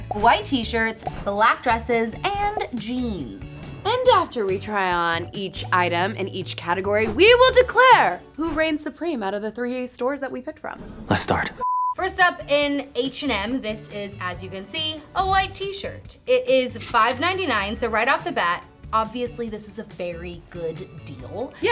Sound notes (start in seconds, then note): 11.6 color bars beeping; 12.0 upbeat music; 16.5 cash register dinging